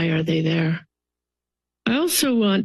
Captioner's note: pause